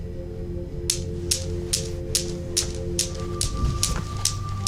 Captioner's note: objects clattering